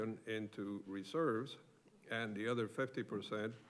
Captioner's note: none